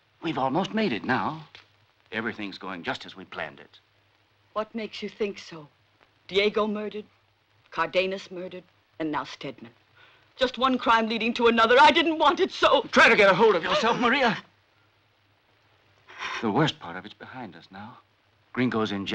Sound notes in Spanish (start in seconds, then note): 11.8 llora